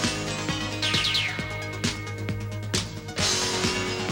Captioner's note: lasers firing